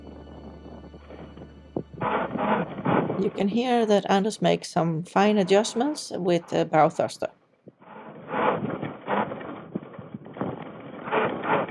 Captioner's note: sound of bow truster working and chain being pulled up